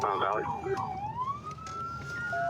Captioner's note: sirens